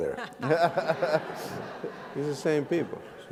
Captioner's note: laughs